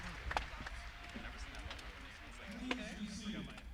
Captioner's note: cheers and applause